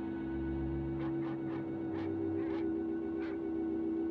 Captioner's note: dog barking